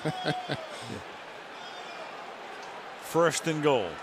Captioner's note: laughs